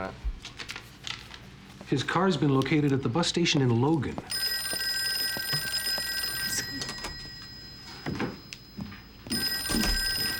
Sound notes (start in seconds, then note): 4.2 telephone rings